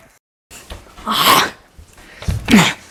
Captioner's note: chomping noise; grunting